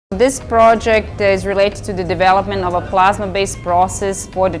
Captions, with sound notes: (quiet music) [WOMAN with European accent]: This project is related to the development of a plasma-based process